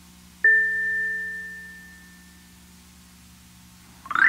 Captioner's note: game chimes